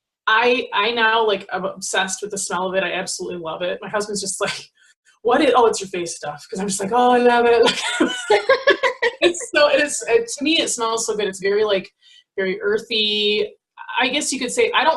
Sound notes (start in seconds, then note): 7.7 laughs